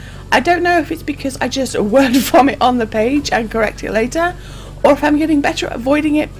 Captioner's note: laughs